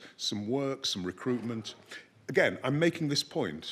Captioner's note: none